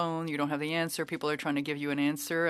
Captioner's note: speaking French